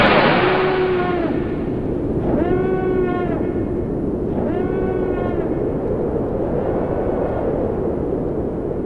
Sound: beam fires; alarm; wind blowing

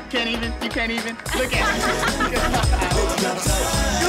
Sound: laughing

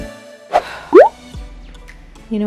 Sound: sighs; swishing popping

